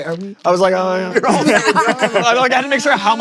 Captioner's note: fake crying